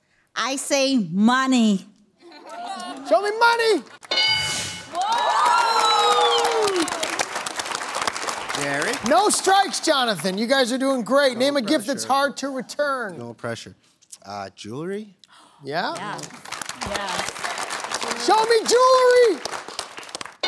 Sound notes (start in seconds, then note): 4.1 bell dings; 4.8 cheering; 15.9 scattered applause